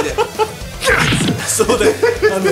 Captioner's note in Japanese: グキッ音